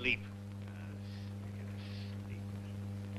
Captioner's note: grumbling